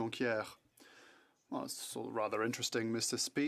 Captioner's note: speaking French